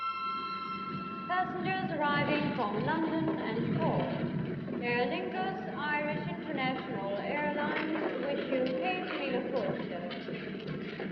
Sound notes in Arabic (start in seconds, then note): 1.3 مكبر صوت